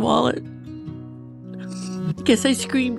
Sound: sniffles

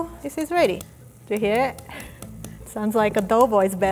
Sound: spoon smacking

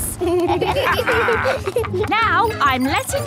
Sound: kids and captain dog laughing

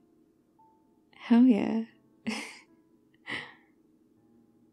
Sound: laughs

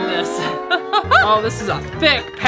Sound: laughs

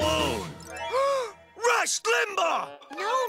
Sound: gasp

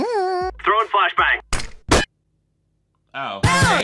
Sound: flashbang clanks

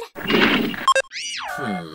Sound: beeping

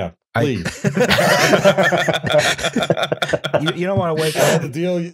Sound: laughter

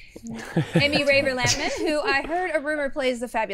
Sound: all laughing

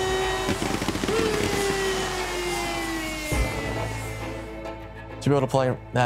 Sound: stadium cheering, fireworks

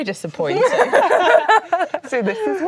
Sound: laughing

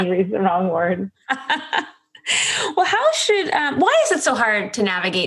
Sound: laughs

